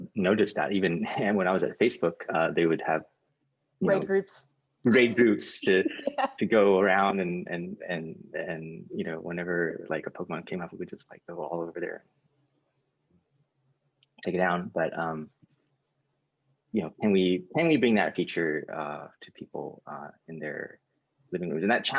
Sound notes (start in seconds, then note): 4.8 laughs